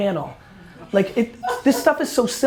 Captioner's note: laughing; laughter